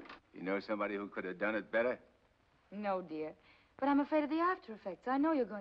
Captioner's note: none